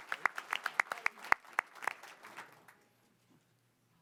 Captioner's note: applause